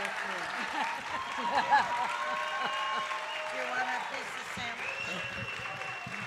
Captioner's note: audience cheering and applauding